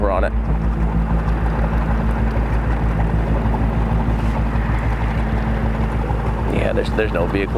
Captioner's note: boat engine rumbling; somber music continues